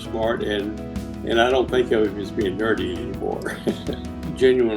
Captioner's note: laughs